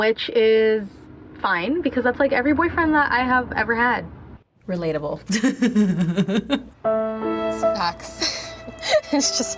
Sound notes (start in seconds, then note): 5.2 laughs; 6.8 somber music; 9.0 laughs